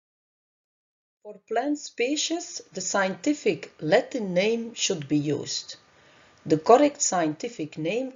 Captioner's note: Latin